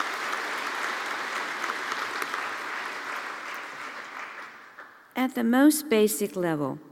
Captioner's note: applause